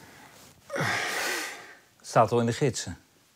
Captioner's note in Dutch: Hij zucht